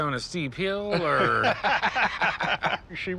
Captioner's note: laughter